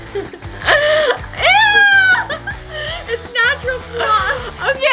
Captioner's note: laughing; laughs